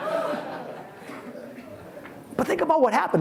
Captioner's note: audience laughs